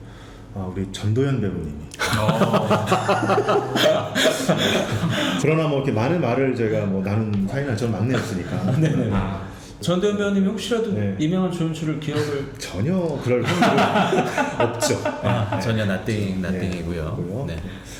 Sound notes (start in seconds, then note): 2.0 laughing